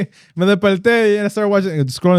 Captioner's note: speaking Spanish